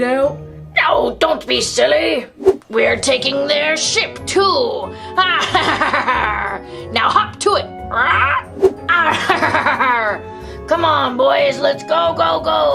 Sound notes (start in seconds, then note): 5.2 laughs; 8.2 squawking